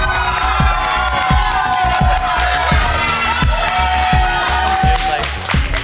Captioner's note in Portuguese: Aplausos